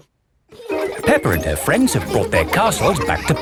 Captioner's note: children laughing